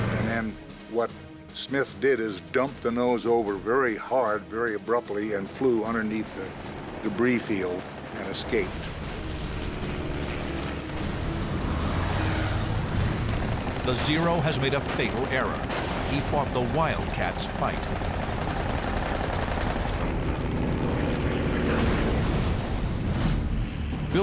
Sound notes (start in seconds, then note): 8.7 intense music; 18.0 gunshots; 21.7 explosion